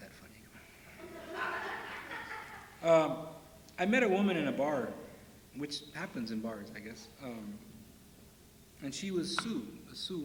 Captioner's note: laughter